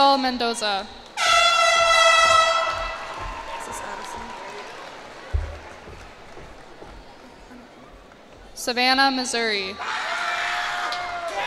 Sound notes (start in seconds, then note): 1.1 cheers and applause; 9.8 cheers and applause